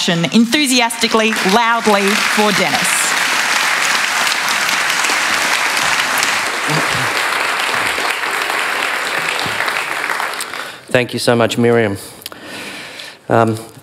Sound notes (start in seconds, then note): 2.6 applause